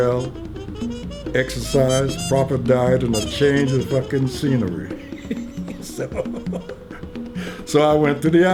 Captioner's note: laughs